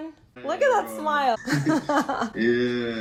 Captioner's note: laughter